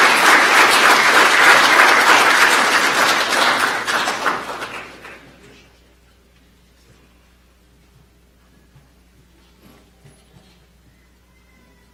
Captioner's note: applause